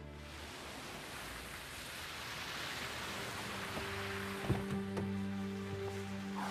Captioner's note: water splashing